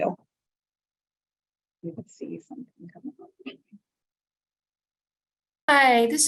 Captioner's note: silence